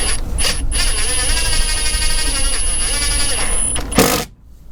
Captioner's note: drill whirring